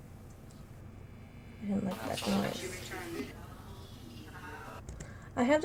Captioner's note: various sounds, distractions, voices